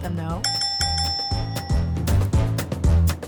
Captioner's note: ding ding ding ding